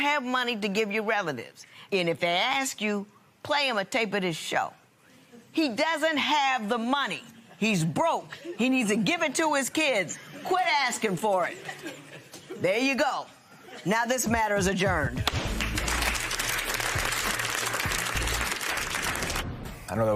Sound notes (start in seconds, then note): 15.2 applause; 15.3 gavel bangs